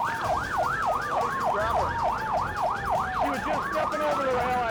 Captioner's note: siren continues